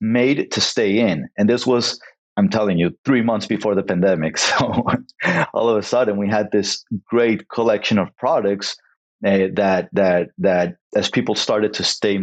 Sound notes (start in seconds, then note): 4.4 laughs